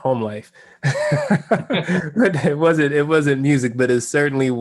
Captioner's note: laugh